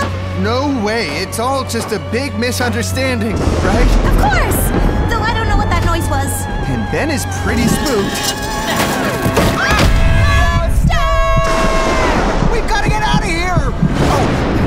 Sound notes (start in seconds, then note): 7.2 crash; 13.8 thunder clap